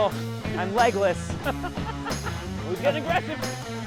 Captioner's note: ha Ha Ha Ha